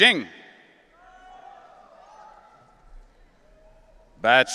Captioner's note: audience cheering